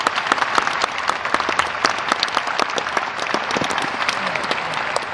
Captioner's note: applause